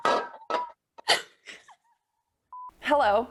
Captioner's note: all giggle